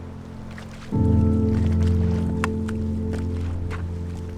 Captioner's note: water splashing